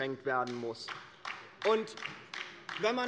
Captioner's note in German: Beifall bei der LINKEN